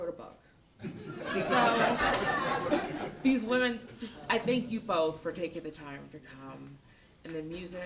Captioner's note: laughter